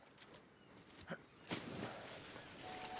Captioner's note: splash